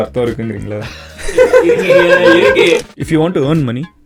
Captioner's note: group laughs